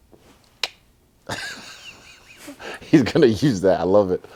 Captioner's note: laughs